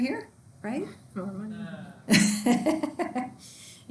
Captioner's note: student groans; laughs